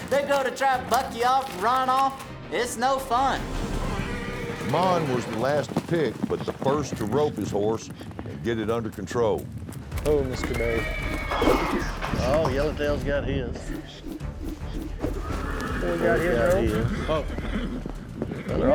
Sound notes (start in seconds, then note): 10.1 horse whinnies, rope swirls; 13.7 rope swirls